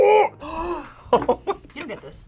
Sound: gasps; laughs

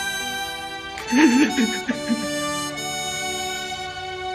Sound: crying

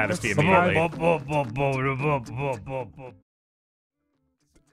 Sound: more awful beatboxing

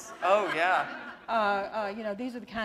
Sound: laughter

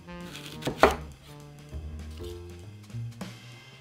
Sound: knife slicing

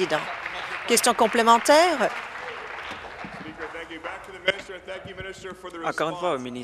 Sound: applause

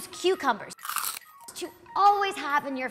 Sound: cucumber crunch

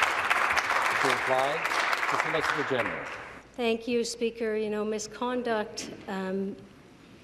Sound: applause

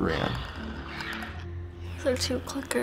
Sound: faint growling; Clickers croak

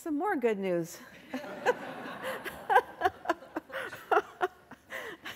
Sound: laughter

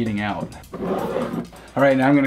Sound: pen rumbles

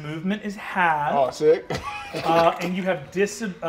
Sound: chuckles

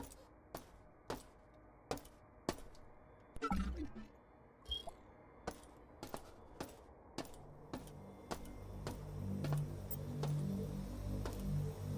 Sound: footsteps

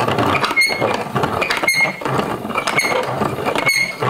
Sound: creaking noises

